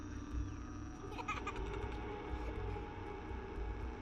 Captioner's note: girl laughs; spooky music